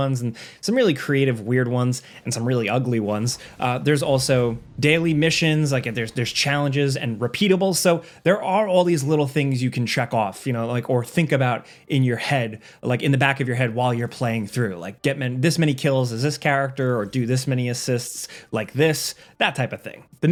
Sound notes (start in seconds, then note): none